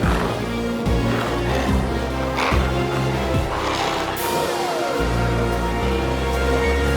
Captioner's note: glowzies growling continues; intense music continues